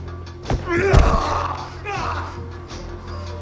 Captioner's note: Ben and Tyler rustling; dramatic music; Ben yells; dramatic music